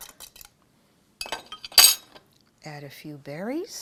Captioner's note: clatter